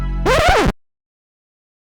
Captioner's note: record scratch